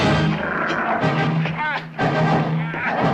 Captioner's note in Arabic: موسيقى درامية; هدير الكلب; ديفيد يتأوه